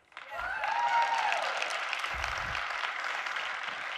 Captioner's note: audience cheering